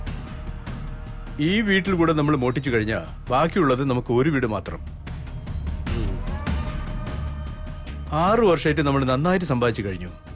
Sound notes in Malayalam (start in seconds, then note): none